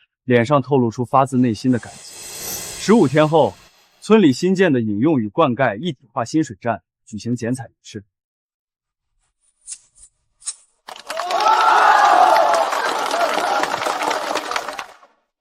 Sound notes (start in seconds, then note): 10.9 cheers